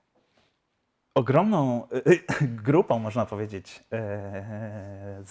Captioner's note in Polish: śmiech